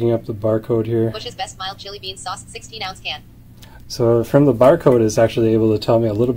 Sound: Computer voice: Bush's best mild chili beans sauce 16 ounce can

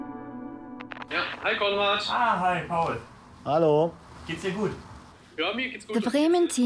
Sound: speaking German

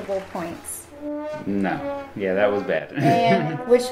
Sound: laughs

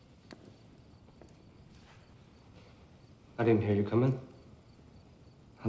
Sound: fire crackling

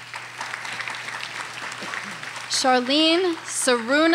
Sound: audience applauding

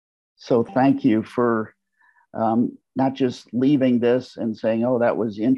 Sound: notification sound

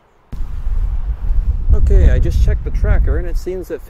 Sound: wind

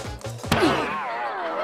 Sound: groans

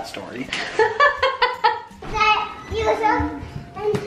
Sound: laughs

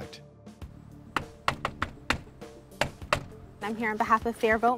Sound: knocking

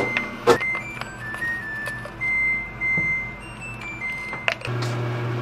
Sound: sound of washing being completed

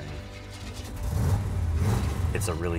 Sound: engine revs

